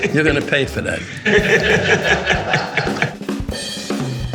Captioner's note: laughing